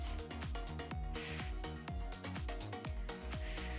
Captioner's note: exhaling deeply; upbeat lively music